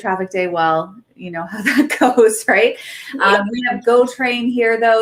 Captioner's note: laughs